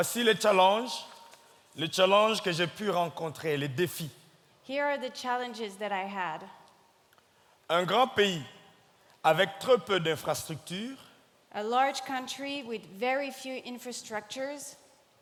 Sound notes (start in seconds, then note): 0.1 speaking in French; 7.8 speaking in French